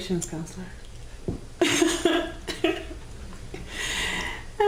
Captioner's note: laughing